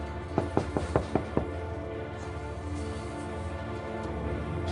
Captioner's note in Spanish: Toques en la puerta